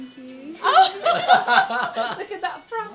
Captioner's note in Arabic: َضحك